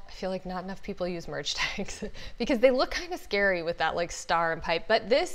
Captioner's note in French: rires